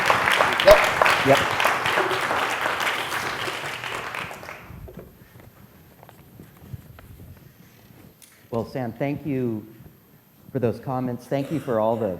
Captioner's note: applause